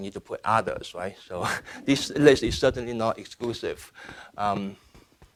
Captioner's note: laughing